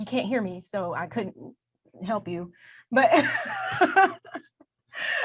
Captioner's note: laughs